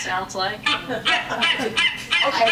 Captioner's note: laughter